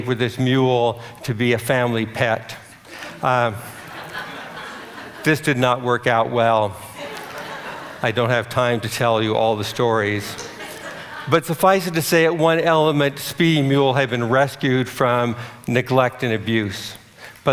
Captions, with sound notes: with this mule to be a family pet. [audience laughter] This did not work out well. I don't have time to tell you all the stories, but suffice it to say that one element speedy mule had been rescued from neglect and abuse.